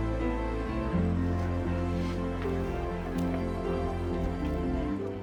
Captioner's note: people chattering